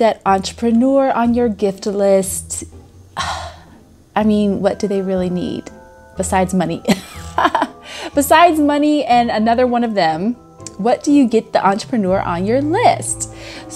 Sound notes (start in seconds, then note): 6.9 laughs